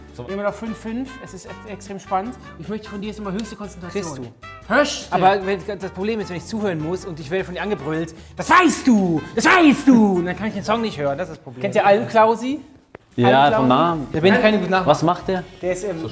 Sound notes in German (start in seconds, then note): none